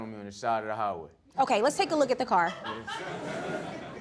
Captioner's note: audience laughing